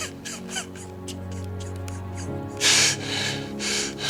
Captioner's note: Mac sobs